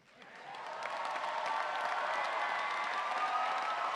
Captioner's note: audience cheering